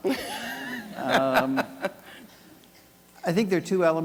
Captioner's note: laughing